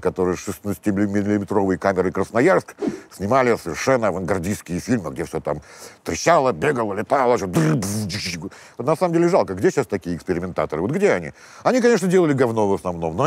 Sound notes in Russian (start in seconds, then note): 7.4 изображает звуки взрывов